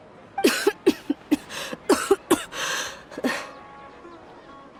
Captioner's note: cough